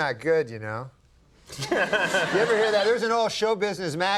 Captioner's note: Conan laughing